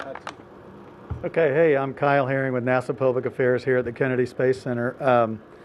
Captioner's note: applause